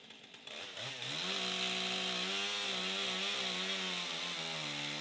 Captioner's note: chainsaw roaring